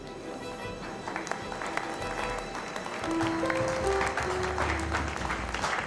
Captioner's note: members applauding